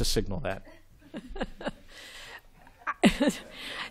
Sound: laughs

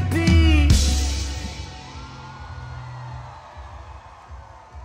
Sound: audience cheers

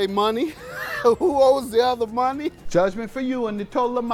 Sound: laugh

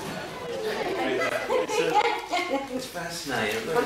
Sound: laughter

